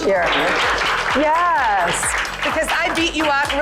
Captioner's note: girls applauding